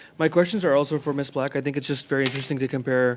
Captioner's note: speaking French